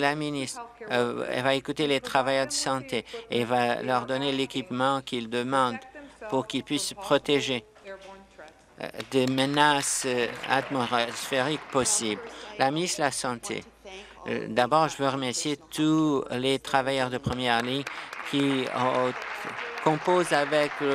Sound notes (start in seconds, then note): 12.5 applause